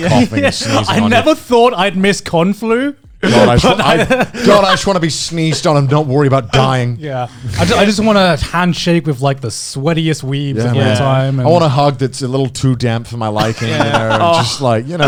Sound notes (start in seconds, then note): 3.2 laughing